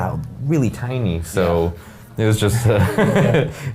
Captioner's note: laughing